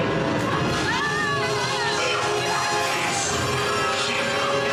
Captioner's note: screams